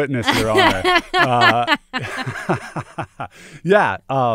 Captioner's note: laughter